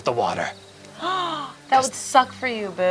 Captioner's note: gasps